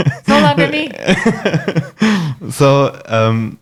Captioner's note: laughing